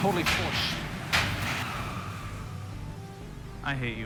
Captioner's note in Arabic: صرير الإطارات